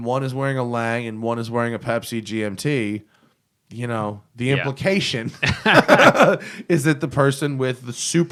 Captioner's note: laughs